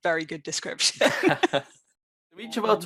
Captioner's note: laughing